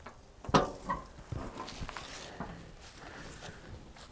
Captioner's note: hood creaking